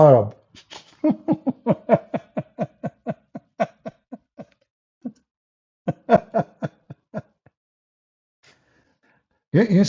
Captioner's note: Ketawa